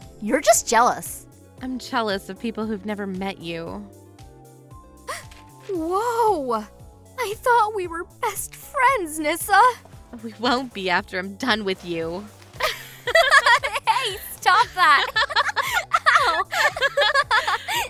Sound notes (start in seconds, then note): 5.1 small gasp; 12.6 laughter